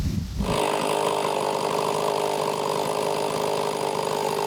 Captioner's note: engine rumbling